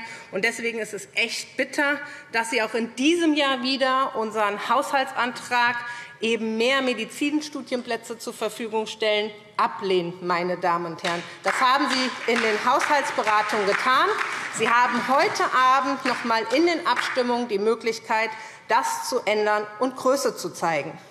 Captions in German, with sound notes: Deswegen ist es echt bitter, dass Sie auch in diesem Jahr wieder unseren Haushaltsantrag, mehr Medizinstudienplätze zur Verfügung zu stellen, ablehnen. [Beifall SPD] Das haben Sie in den Haushaltsberatungen getan. Sie haben heute Abend in den Abstimmungen noch einmal die Möglichkeit, das zu ändern und Größe zu zeigen.